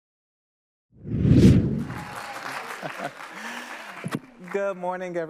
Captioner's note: panelists cheering and applauding